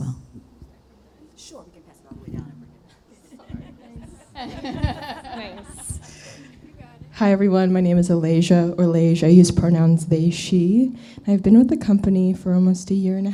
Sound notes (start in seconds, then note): 3.0 laughter